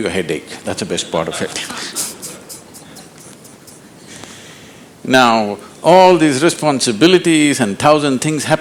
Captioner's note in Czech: Smích